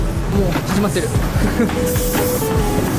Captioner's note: laughs